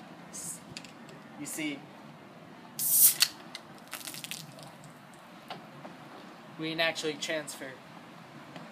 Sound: pop hits ground

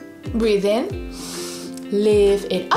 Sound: breathes in deeply

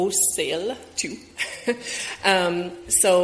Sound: chuckles

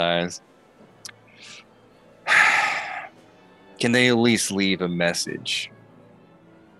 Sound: sighs

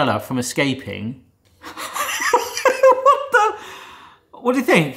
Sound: laughs

